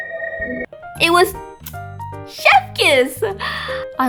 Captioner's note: mwah